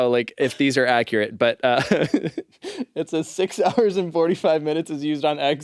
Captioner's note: laughs